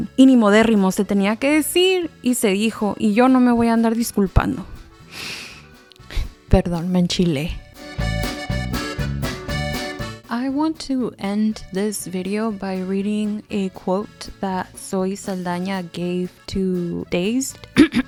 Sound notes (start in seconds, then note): 5.0 inhales deeply; 7.6 upbeat Mexican music; 17.7 clears throat